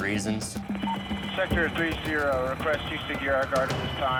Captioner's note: radio beeps